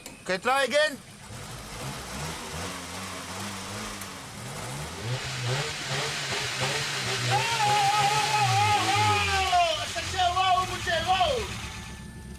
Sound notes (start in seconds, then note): 1.6 engine revs up again; 5.1 engine revs louder